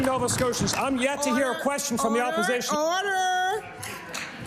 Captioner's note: applause